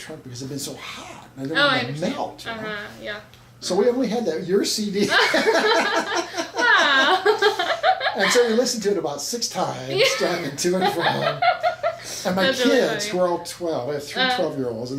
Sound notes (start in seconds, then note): 5.1 laughs